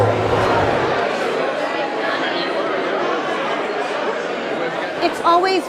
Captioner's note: crowd noise